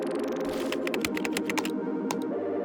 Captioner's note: upbeat electronic music; keyboard clacking; mouse button clicking